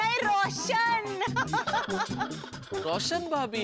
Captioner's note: laughing